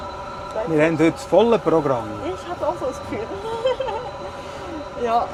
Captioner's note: laughs